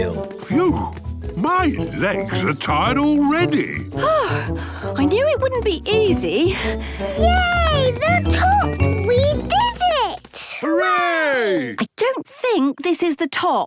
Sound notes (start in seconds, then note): 3.9 panting